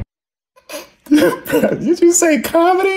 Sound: Van laughs

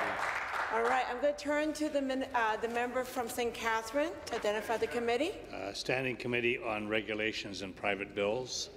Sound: some Applause

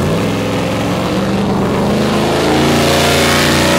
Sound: engine roaring

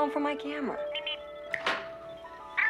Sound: Steve Trevor snaps his Fingers

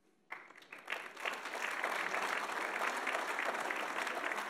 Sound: audience applauds

